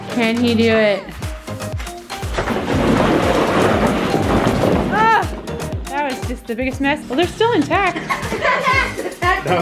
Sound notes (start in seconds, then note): 2.2 balls crunching; 7.9 laughs